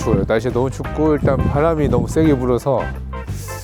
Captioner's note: the wind is too loud for the mic